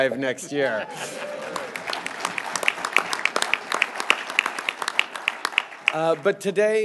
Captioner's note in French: Applaudissements